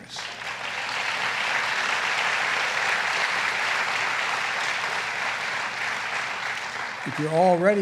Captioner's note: applause